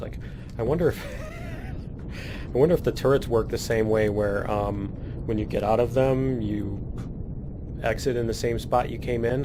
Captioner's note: laughs